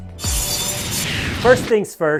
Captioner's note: saw blade buzzing